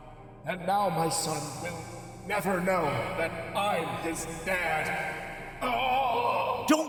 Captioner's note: moan of pain